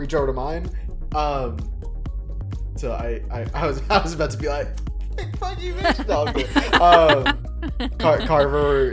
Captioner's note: laugh; chuckles